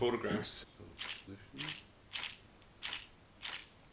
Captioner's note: shutter clicks